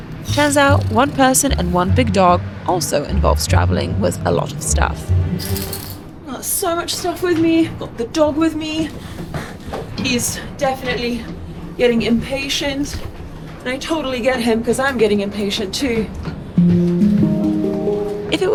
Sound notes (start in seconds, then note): 5.3 chain rattling; 16.6 melodic music